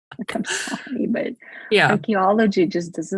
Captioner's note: laughs